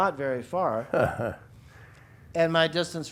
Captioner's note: laughs